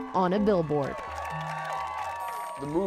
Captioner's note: cheering